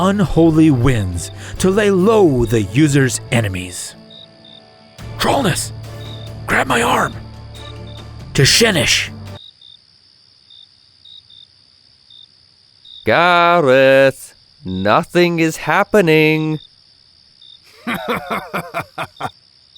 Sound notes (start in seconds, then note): 4.7 whispers; 10.1 crickets chirping; 17.7 brutes laughing